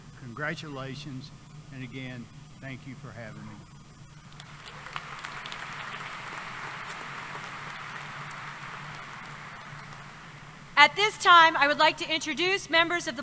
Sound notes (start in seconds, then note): 4.3 applause